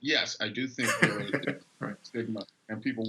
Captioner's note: laughing